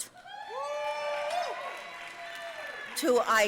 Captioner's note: audience cheering and applauding